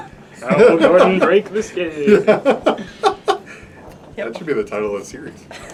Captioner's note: laughing